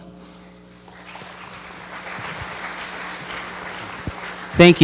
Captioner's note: applause